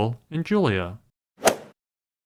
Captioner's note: swoosh